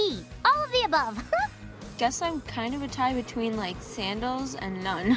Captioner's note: laughs